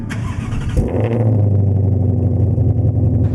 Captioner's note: engine starts